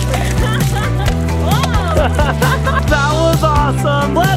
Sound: laughs

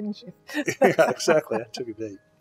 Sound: laughs

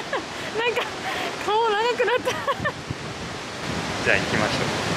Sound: laughs

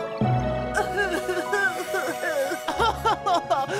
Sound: all crying

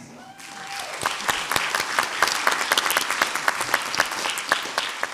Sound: audience applauds

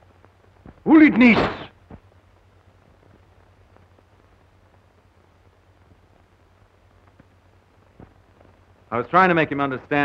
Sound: speaking russian

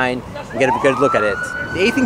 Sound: sirens wailing

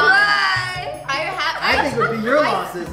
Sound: laughing

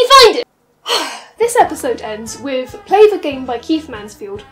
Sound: breathes

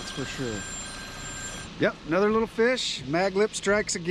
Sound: phone ringing

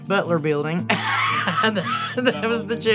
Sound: laughing

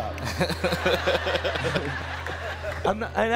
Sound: crowd laughing

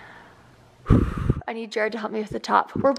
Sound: exhales

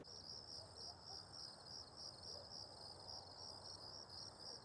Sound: crickets chirping

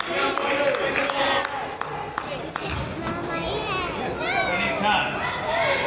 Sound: person claps; crowd chatters

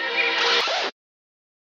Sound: record scratch sound effect

